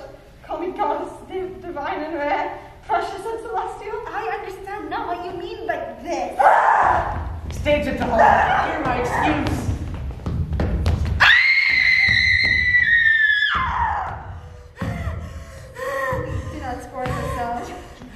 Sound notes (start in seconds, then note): none